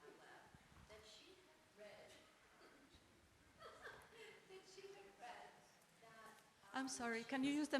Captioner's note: laughs